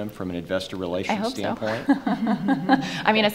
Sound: laughing

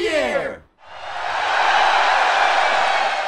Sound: cheering

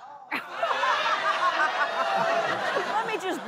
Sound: audience laughing

